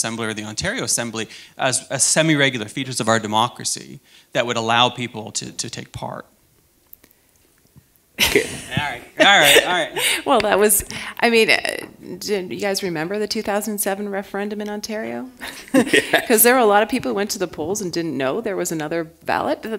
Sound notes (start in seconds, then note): 14.7 chuckle